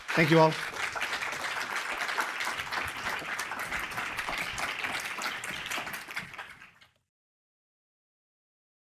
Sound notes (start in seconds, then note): 0.0 audience applauds